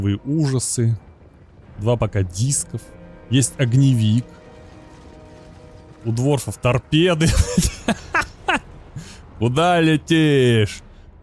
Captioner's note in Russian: смех